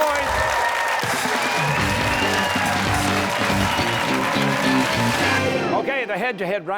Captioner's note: cheers and applause